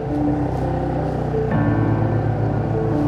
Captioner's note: boat rumbling; soft music